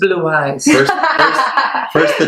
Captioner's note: laughs